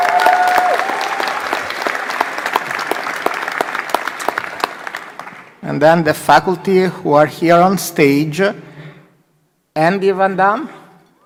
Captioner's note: applause